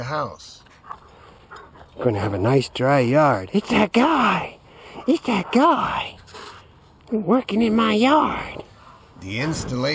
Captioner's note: dog talking